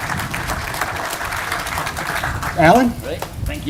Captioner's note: applause